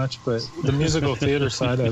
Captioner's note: laughs